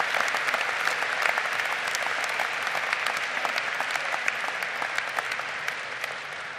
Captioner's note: audience applauding